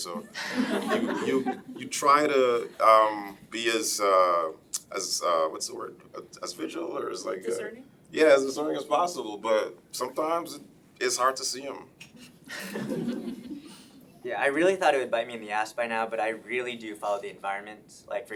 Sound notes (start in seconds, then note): 12.1 laughing